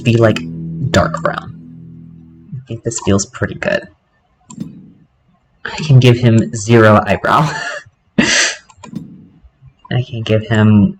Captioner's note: laughter